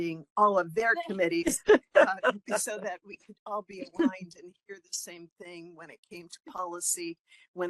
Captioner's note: laughing